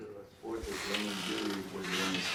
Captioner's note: voiceover